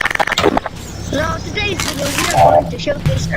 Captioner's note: unknown language